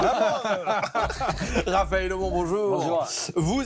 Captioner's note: laughter